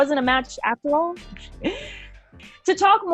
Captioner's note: chuckles